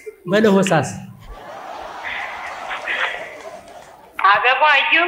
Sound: laughter

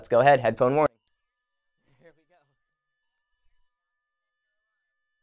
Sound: alarm beeping

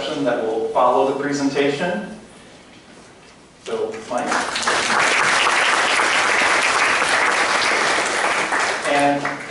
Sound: applause

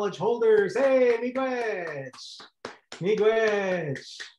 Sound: claps

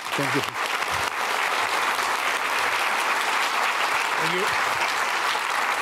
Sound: audience applauding

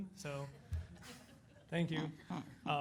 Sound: audience members laugh

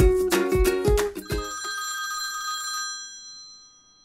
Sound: intro Music; phone Rings

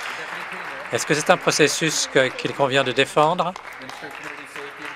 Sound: applause

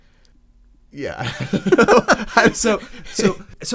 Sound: both laugh

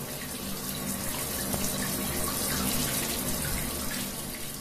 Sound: showering sound

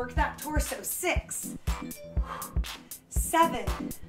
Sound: exhaling

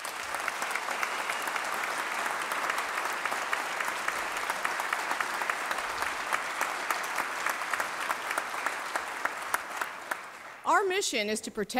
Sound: applause

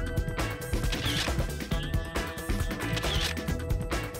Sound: camera shutter whirring

